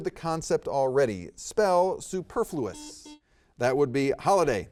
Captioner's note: buzzer beeps